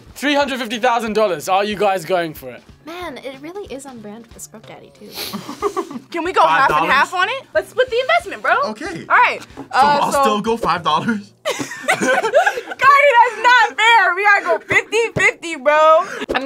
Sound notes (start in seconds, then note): 5.2 laughs; 11.4 both laugh